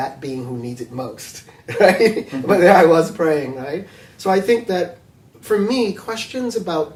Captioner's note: laughs